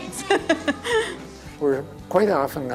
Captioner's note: laughing